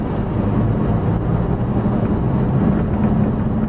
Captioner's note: engine noise